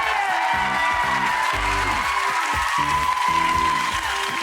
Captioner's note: crowd cheers